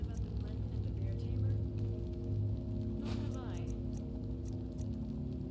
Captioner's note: not-so-distant chatter